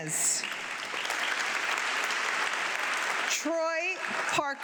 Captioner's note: audience clapping